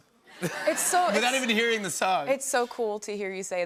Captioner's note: laughter